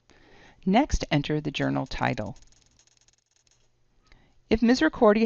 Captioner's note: typing sounds